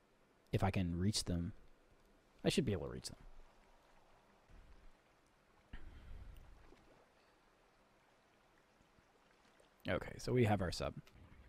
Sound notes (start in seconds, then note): none